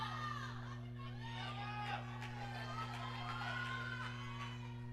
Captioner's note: audience cheering